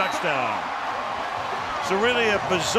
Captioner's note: cheering